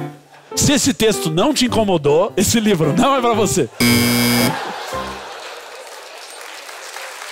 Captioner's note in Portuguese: campainha